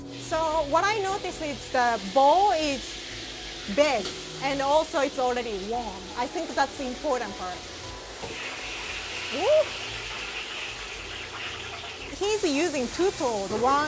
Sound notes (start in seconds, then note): 0.0 gentle music; 7.8 oil sizzling